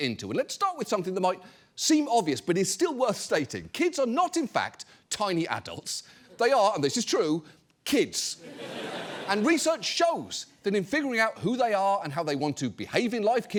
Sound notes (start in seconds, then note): 8.4 audience laughs